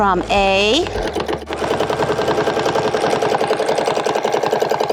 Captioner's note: machine whirring